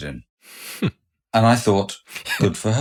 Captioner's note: chuckles